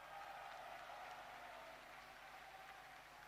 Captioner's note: applause